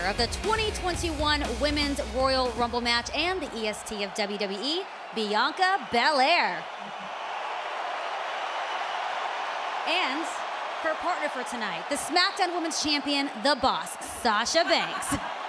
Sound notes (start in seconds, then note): 6.6 crowd cheers